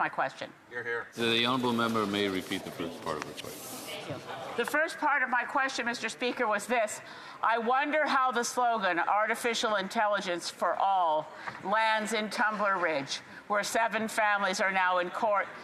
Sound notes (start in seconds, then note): none